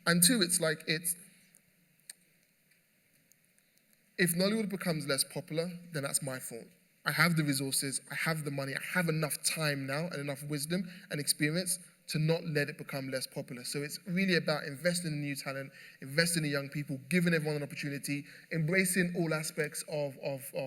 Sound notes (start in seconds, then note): none